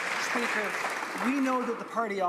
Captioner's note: some Applause